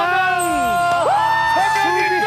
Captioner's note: happy cheers